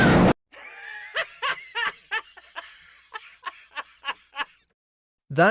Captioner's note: Shawn Laughing